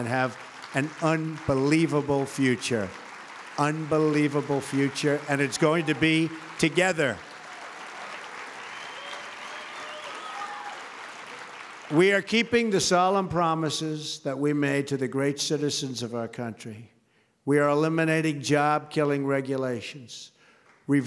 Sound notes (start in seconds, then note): 2.9 applause; 9.1 applause